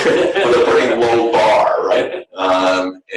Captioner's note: laughter